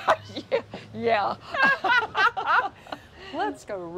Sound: women laughing

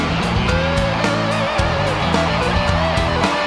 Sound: crowd cheering

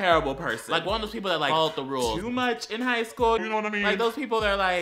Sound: lower pitch

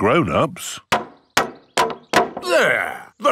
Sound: hammering

